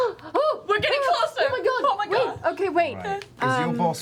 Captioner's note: gasps